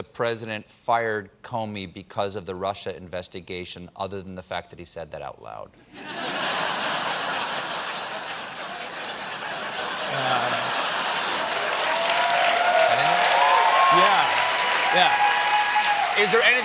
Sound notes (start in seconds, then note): 4.4 applause; 5.9 laughter; 8.5 cheers